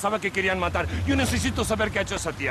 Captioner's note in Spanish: Sollozos